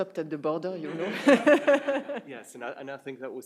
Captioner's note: everyone laughing